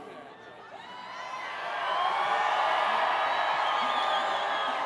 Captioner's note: graduates cheering